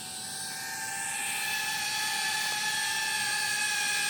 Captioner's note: flying machine sound